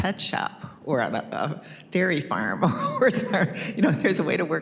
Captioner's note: chuckles